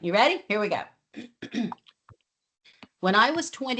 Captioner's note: clears throat